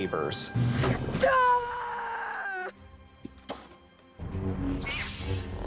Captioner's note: screaming